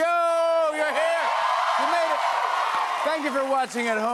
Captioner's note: cheers and applause